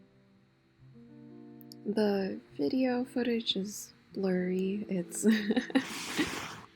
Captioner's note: chuckle